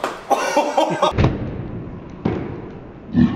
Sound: laughs

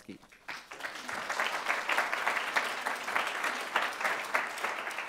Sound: applause

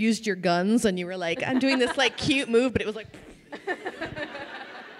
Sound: vocalizes; crowd laughing

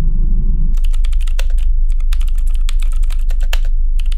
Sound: typing

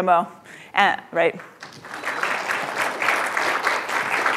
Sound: applause

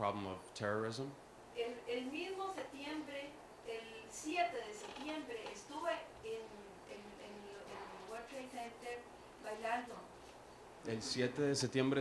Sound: Spanish

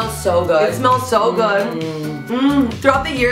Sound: humming with delight

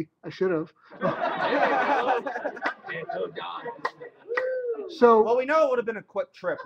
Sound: laughter

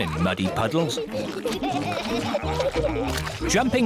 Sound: all giggling

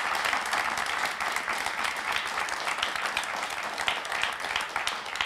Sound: applause

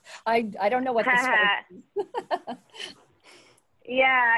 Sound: laughing; laughs

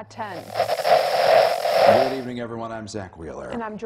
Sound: Static

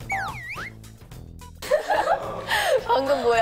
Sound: haha

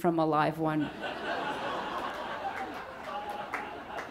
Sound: audience laughs

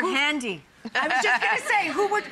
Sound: laughter

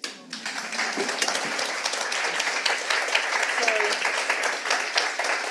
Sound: audience clapping

